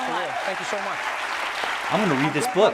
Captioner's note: group applauding